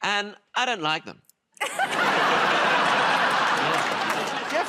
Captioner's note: laughter